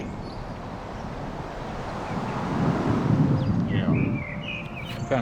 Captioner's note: wind blowing